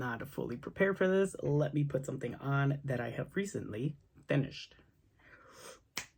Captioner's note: snap